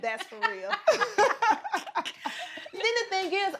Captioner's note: both laugh